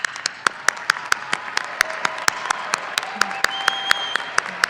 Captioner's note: audience applauding